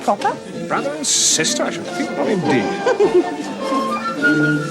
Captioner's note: chuckles